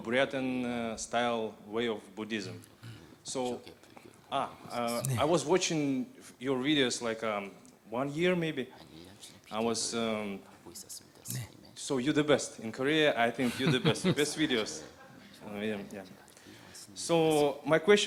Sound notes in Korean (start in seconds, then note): 13.4 스님 웃음